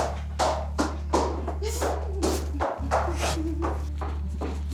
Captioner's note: hums happily